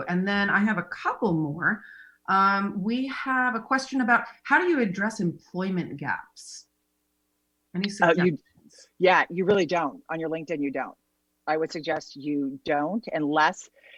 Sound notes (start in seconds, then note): 8.0 laughs